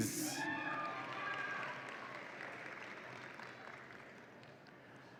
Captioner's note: audience applauds and cheers